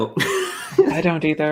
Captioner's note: laughs